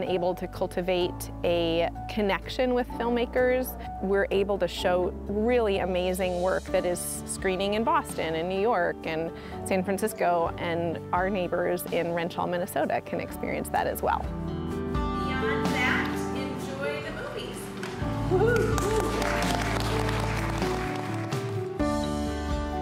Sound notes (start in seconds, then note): 17.7 applause